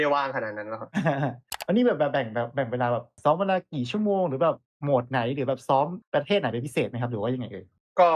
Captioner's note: laughs